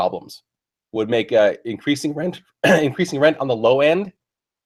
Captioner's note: cough